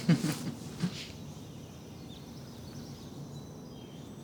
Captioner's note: woman giggling